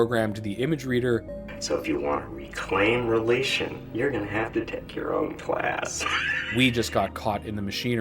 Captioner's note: laughs